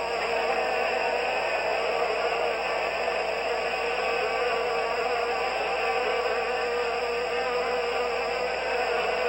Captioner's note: applause